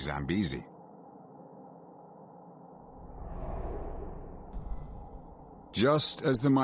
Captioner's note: birds chirping